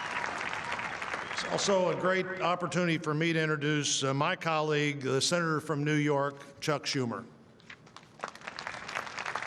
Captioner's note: applause